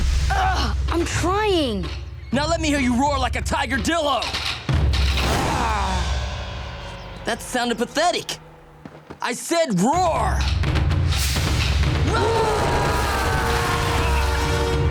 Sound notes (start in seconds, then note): 5.2 weakly roaring; 12.0 roaring